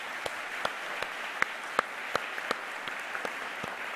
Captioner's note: audience applause